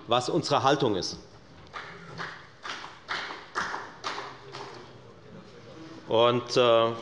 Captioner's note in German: Beifall bei der FDP